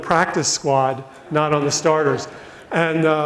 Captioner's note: audience laughs